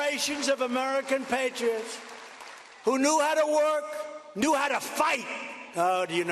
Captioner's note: cheers and applause